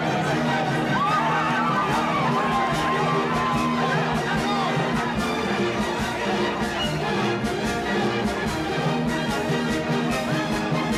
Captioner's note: general confusion